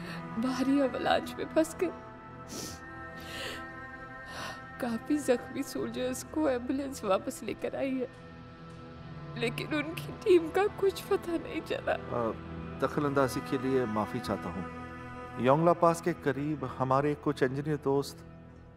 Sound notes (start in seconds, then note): 2.5 sniffs